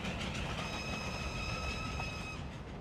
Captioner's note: train whistle blows